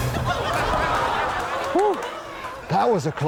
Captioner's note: audience laughs